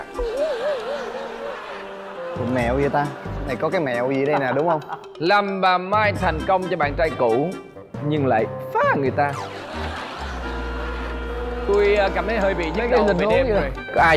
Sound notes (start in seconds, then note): 0.0 laughing; 4.0 keeps laughing